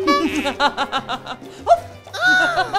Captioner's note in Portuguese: risadas